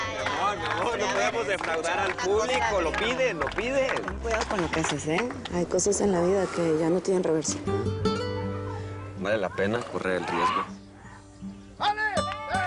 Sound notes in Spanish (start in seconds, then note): 1.2 Hablan al unísono